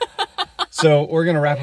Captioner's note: laughing